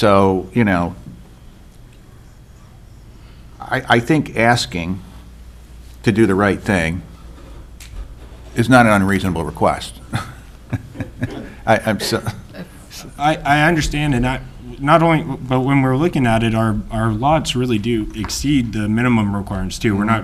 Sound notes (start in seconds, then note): 10.0 laughs